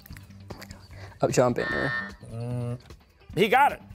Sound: buzzer

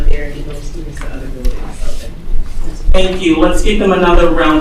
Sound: speaks faintly

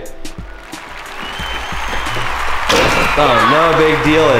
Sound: applauding and cheers

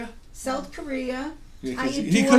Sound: voiceover

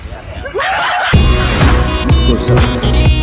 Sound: swoosh

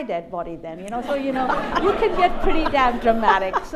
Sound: laughter

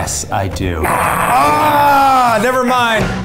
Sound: snarling; screaming

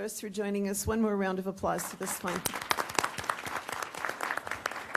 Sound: applause

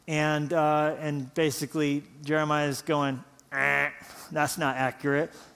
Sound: imitates buzzer

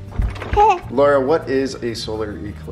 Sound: baby cooing

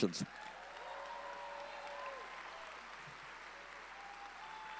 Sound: audience cheering

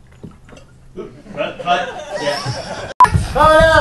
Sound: laughter

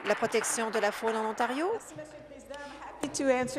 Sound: applause

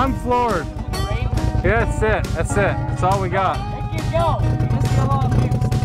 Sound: overlapping chatters

